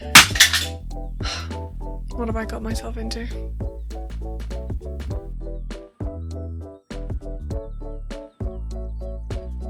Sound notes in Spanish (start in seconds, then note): 1.2 suspira